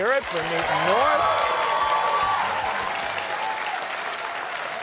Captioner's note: cheers and applause